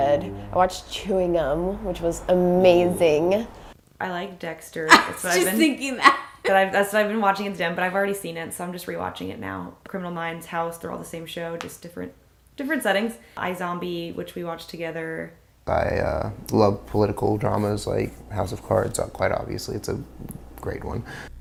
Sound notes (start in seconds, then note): 4.8 laughing